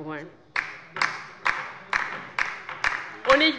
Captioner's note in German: Beifall bei der LINKEN